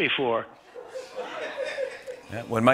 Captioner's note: laughter